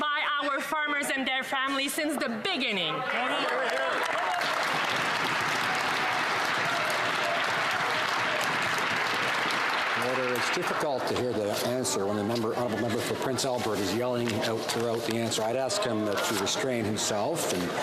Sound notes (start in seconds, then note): 6.1 some Applause